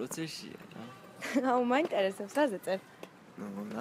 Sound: chuckles

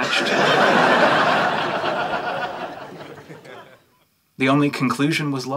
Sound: audience laughing

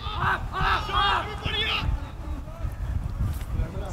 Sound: players yelling

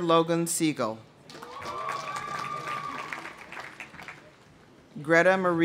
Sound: audience cheering; audience applauding

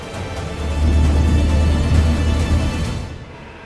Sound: car reverses

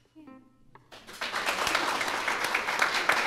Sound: applause

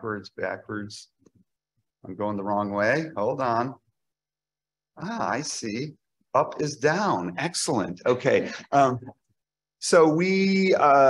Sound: laughter

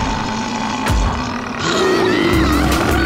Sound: growling

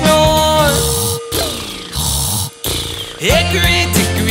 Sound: horse snoring

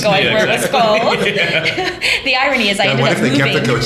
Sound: laughter

